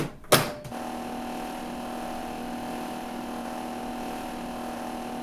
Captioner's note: microwave whirring